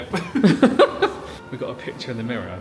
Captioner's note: laughing